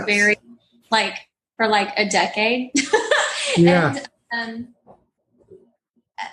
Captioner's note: laugh